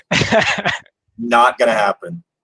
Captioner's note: laughs